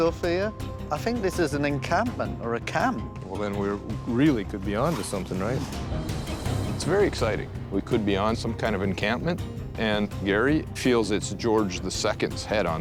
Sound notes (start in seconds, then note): none